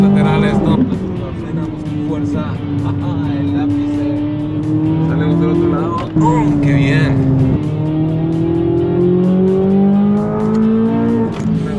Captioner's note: engine revving; laughter